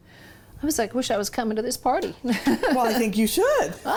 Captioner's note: laughs